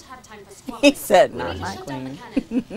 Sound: laughs

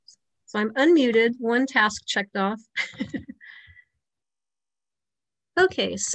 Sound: chuckles

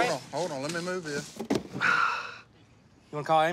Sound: sighs

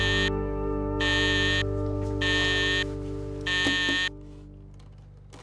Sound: alarm clock sounding

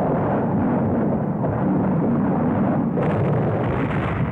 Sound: explosions booming

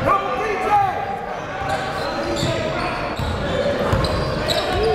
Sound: cheering and yelling

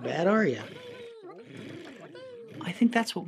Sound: critters mumbling; critters mumbling and purring

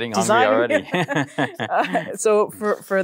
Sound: both laugh

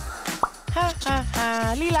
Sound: humming

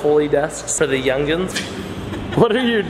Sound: laughter

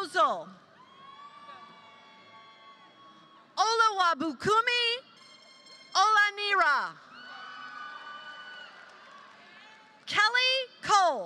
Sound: applause

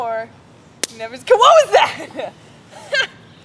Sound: twig snaps

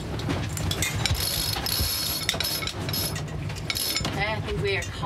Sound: pulley clanking

